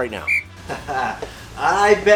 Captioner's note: chuckles